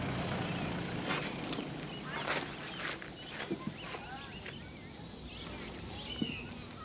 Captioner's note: car rumbling quietly; birds chirping; children chattering